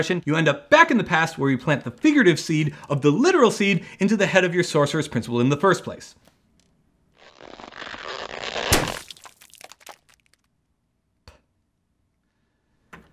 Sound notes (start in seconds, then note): 7.1 skin stretching; 7.2 pop